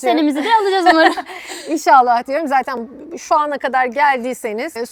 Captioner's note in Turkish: kahkaha